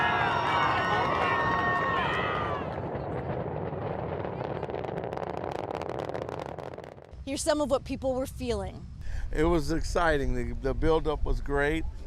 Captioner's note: cheers and Applause